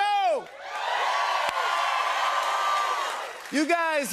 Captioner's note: cheers and applause